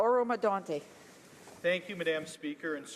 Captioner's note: speaking in french